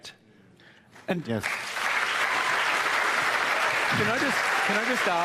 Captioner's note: cheering and applause